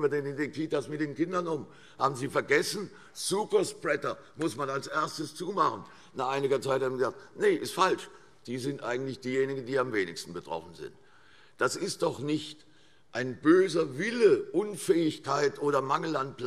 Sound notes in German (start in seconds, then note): none